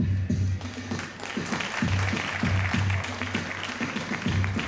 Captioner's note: audience applauding